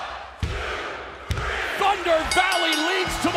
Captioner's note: crowd cheering